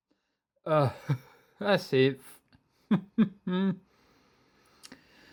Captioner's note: chuckles